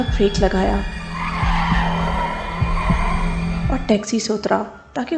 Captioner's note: car Skidding